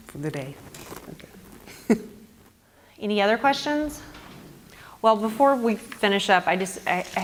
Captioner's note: laugh